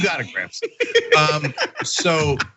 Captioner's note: laugh